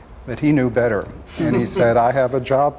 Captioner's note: chuckles